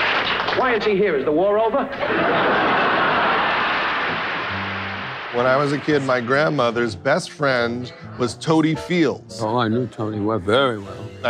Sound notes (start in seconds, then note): 0.0 applause; 1.8 laughing